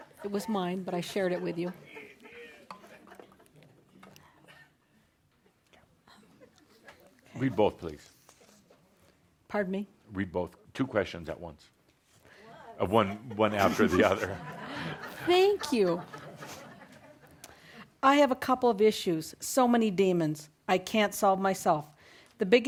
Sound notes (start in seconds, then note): 14.8 laughter